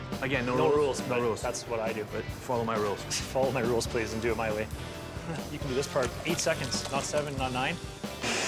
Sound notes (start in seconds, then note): 5.1 laughs